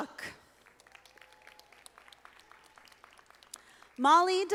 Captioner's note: audience applauding